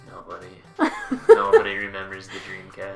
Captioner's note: laughs